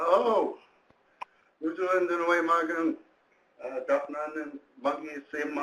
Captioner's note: speaking in foreign language